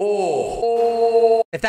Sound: loud moaning

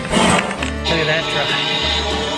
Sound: engine hissing

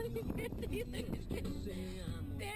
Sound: laughter

